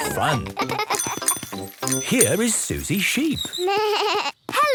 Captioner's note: bike bell; bleating